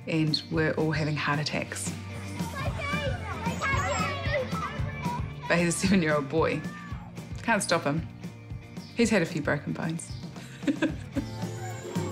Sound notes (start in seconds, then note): 1.9 children chatter, yell; 10.3 laughs